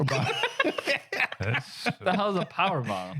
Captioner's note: laughing